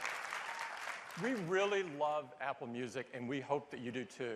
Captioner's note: cheers and applause